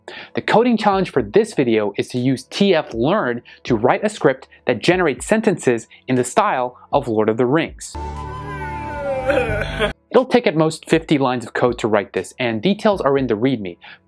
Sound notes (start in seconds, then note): 9.1 gandalf laughs